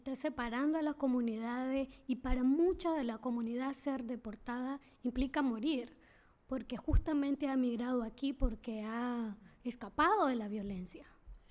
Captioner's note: speaking spanish